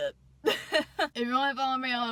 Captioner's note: laughs